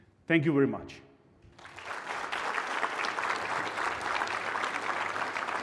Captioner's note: applause